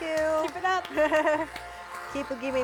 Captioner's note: giggles